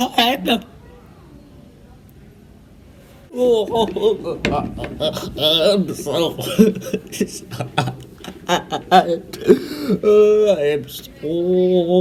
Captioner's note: fake crying